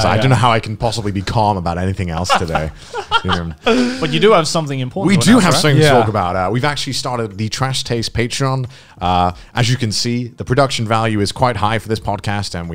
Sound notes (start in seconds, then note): 2.3 laughing softly